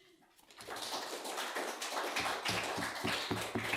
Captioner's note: applause